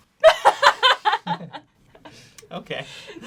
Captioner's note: laughs